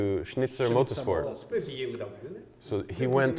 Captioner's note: speaks in Japanese